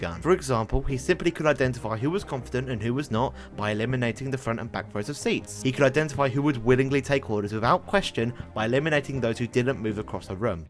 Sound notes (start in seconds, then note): none